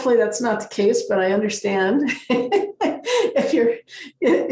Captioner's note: laughs